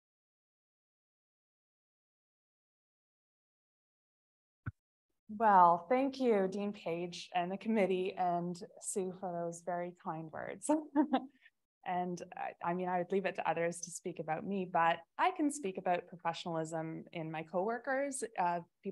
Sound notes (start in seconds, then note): 10.9 chuckles